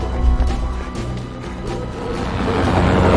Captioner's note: panting